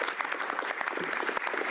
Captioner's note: applause; speaking French